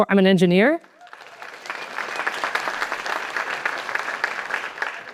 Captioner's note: applause